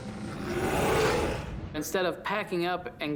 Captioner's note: growling